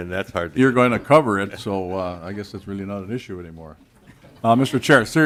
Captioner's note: laughing